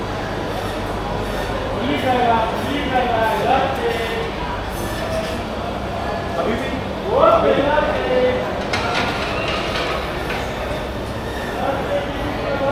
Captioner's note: crowd chattering; crowd cheering